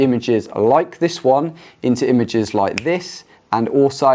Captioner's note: fingers snapping